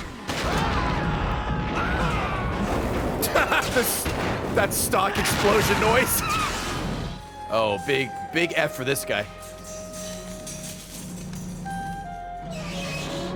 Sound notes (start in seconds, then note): 3.2 laughs; 4.6 screams